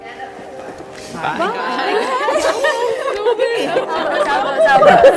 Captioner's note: laughs